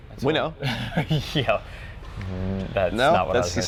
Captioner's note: laughs